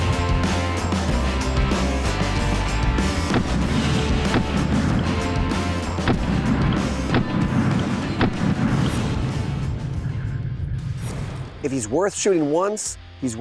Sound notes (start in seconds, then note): 0.1 rock music; 3.4 gunshots